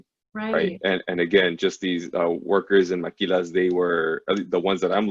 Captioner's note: foreign language spoken